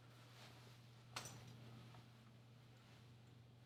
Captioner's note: none